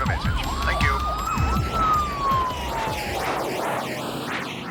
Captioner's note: sirens wailing